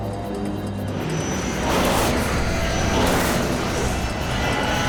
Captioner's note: plane crashes